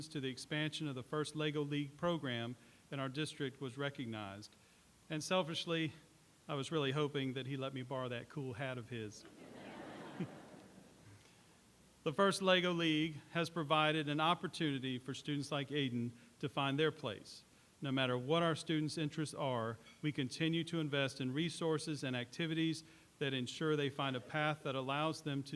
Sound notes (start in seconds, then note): 9.2 laughter